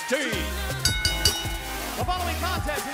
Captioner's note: bell ringing